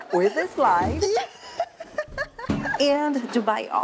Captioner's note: laughs